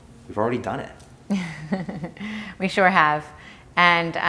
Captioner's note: laughs